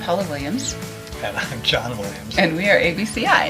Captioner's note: laughs